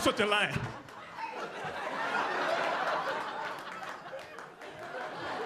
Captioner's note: audience laughing